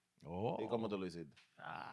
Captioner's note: speaking In Foreign Language